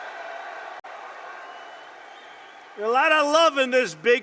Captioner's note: applause